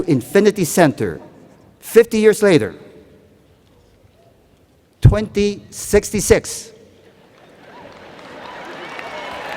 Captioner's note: cheers and Applause